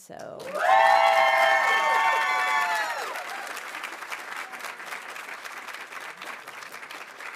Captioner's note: audience applauding; audience cheering